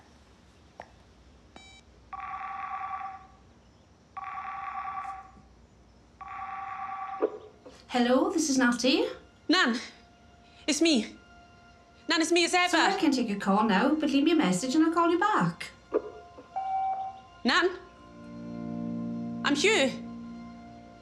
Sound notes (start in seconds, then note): 1.6 keypad tones; 2.1 phone rings; 6.7 phone picks up; 17.8 melancholic music